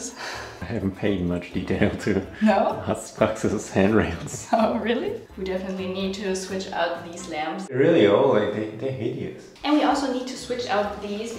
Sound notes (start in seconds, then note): 0.1 soft laugh; 3.7 speaks foreign language; 4.7 laughs